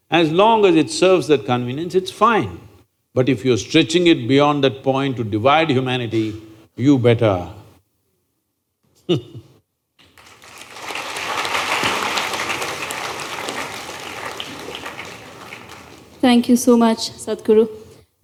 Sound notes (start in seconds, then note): 10.9 laughs; 13.9 applause